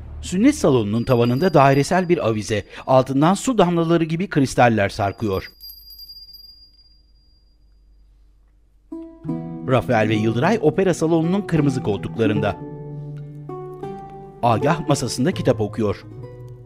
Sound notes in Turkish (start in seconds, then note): 0.5 Zil sesi